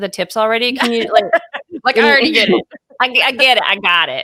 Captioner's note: laughing